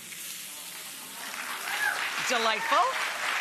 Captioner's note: audience cheers, applauds